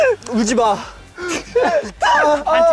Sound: crying

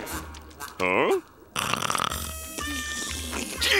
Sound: snoring; groaning

